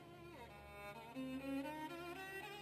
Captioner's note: none